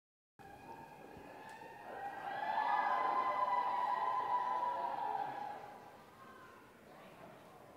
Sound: audience cheering

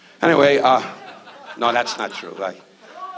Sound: audience laughs

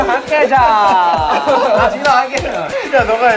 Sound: laughs

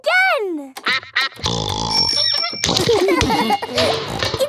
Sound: giggling

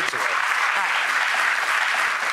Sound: audience applauds

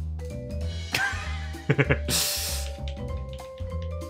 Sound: laughs

